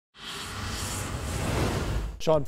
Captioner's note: whoosh